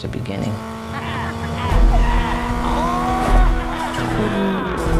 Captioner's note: car engine revving